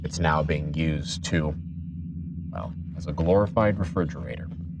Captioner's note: none